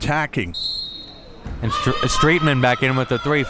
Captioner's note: whistle blows